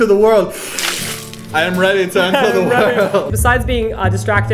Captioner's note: slurp